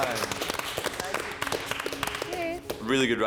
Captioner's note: group applauding